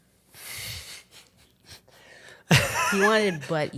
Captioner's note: wheezes